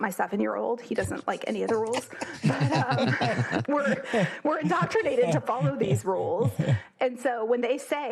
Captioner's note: laugh